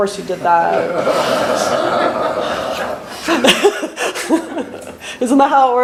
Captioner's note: laughter